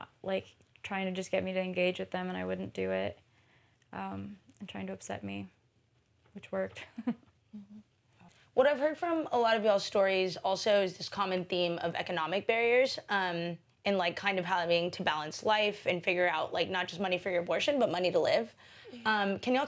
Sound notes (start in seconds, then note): 6.8 chuckles